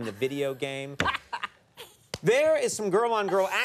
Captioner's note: Jada laughing